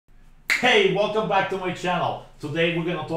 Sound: snap

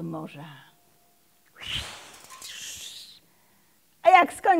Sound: swishing sound

